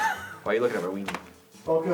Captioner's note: chuckles